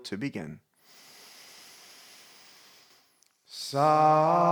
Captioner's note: inhales